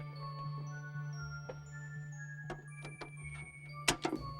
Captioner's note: chiming